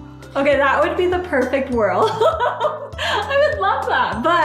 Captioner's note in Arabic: يضحك